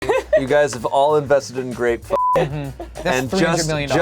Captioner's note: beep